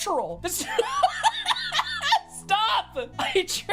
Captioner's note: laughing